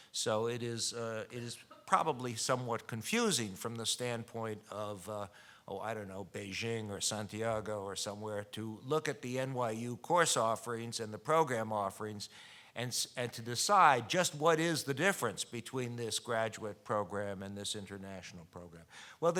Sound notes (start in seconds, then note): none